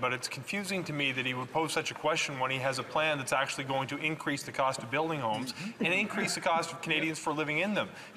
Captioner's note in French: voix de l'interprète